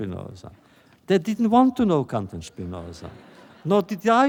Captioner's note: laughter